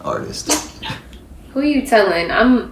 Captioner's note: both giggle